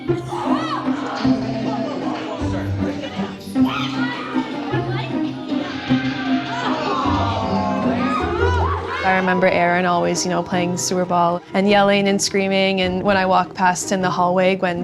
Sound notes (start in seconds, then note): 9.0 general yelling